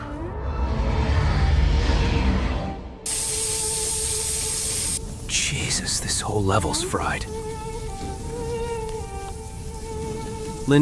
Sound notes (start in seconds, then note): 3.0 electric spark; 7.6 mournful music